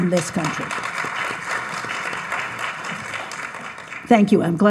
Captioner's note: audience applauds